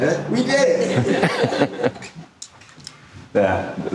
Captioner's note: audience laughing